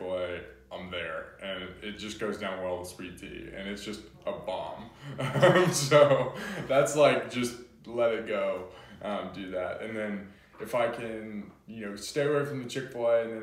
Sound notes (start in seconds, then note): 4.9 laughs